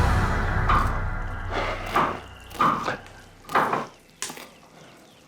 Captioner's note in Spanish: Ruido al picar